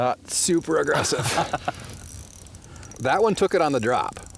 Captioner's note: laughs